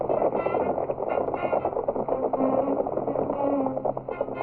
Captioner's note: horses galloping